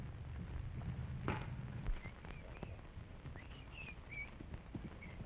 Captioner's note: whistling